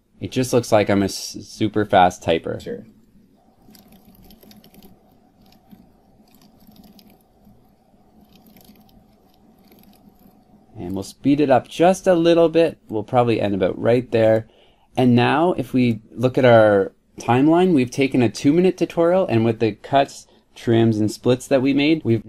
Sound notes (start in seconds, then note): 3.5 recording playing